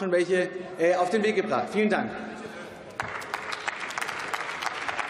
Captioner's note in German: Beifall